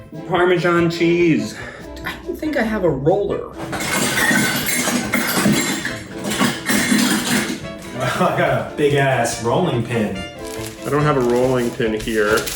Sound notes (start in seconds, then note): 3.6 clanking; 6.3 laughing